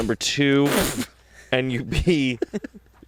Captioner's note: laughs